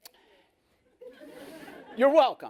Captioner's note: laughter